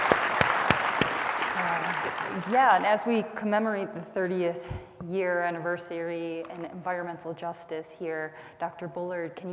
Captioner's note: applause